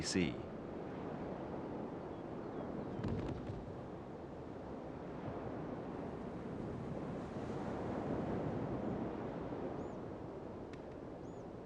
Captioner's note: wind blowing